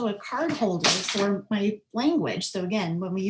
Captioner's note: clinking